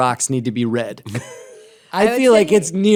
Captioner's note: laughter